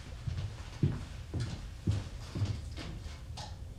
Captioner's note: footsteps thudding